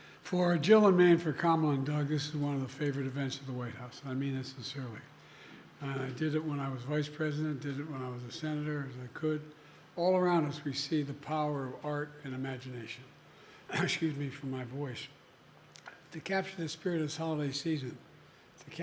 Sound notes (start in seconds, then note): 13.7 coughs